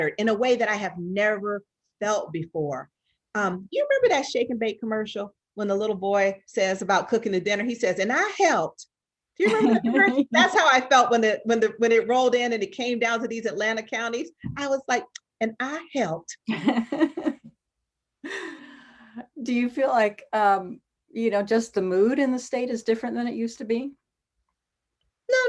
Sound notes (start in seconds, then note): 9.4 laughs; 16.5 laughs